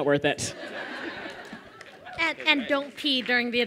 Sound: laughter

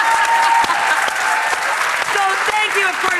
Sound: audience applauds and cheers; laughs

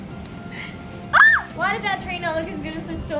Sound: squeals

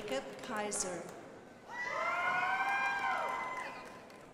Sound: crowd applauding

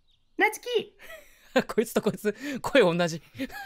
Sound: laughs

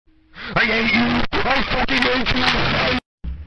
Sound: inhale

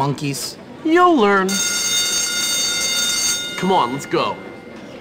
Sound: ring bell

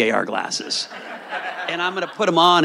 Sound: audience laughing

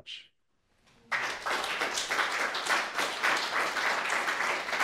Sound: audience applauding

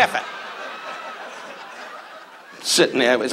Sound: audience laughs

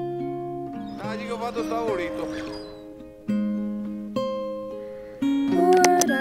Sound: operator speaks in foreign language

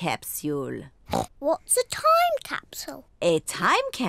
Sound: oinks

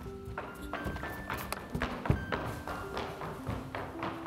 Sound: quick footsteps

